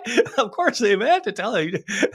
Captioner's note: chuckling